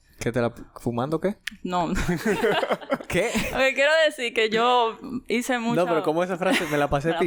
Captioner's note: laughs